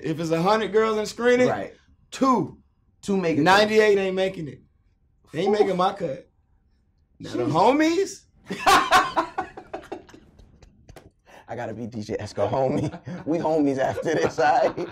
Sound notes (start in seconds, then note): 8.5 laughing